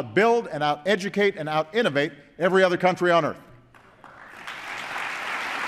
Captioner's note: applause